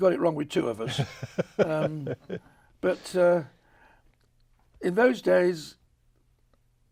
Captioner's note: chuckles